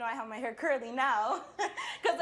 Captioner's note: chuckles